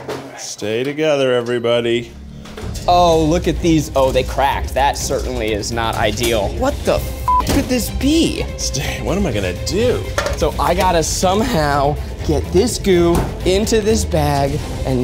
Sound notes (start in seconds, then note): 7.2 beep